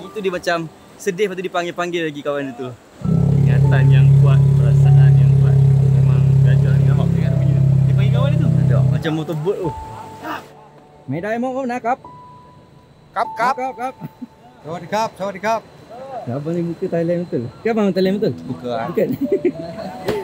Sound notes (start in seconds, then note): 11.1 speaking Thai; 19.0 laugh